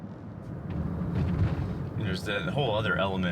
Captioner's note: car engine roaring